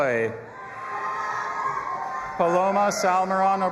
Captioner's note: audience applauding and cheering